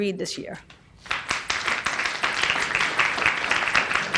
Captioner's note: applause